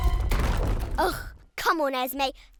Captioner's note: trembling music; crashing